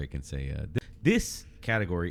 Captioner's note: uh